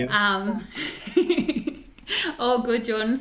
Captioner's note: laughs